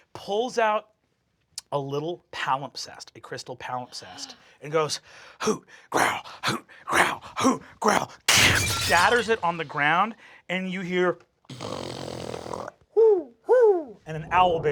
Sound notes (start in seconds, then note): 8.3 glass breaks; 11.5 snorts; 13.0 hoots